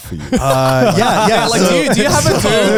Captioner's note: laughing